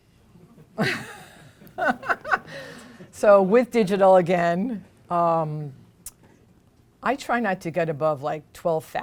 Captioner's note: laughs